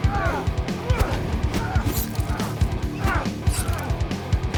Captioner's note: dramatic music; both moaning; dramatic music